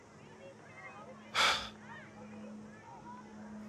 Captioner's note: sighs